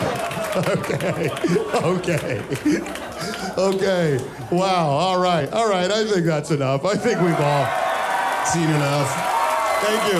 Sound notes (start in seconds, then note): 4.6 audience screaming